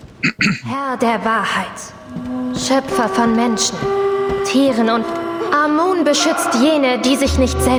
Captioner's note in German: räuspern